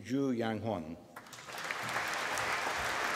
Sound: applause

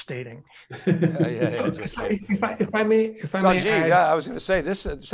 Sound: laughing

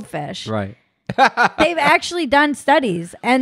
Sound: laughs loudly

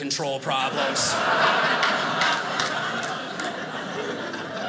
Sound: audience laughing

